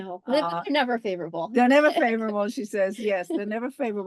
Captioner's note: laugh